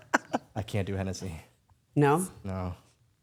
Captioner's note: Dylan and Stephanie laughing